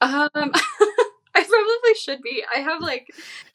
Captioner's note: chuckling